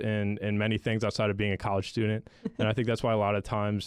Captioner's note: chuckles